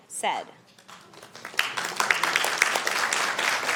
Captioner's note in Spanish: Aplausos